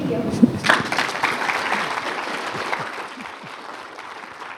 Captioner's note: applause